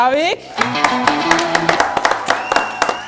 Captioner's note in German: Jubel, Applaus